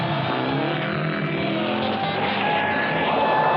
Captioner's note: yells excitedly